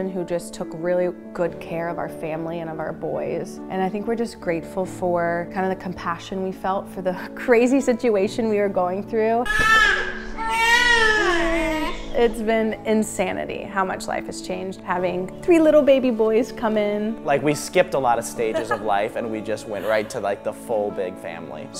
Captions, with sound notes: who just took really good care of our family, and of our boys, and I think we're just grateful for kinda the compassion we felt for the crazy situation we are going through. (baby crying) It's been insanity how much life has changed having three little baby boys come in. - Like we skipped a lot of stages of life and we just went right to the full big family.